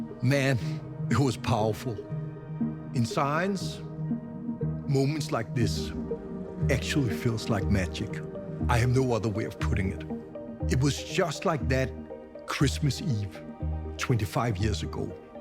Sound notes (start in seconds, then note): none